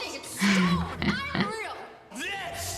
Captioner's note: laughs